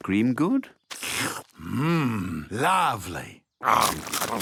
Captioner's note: slurps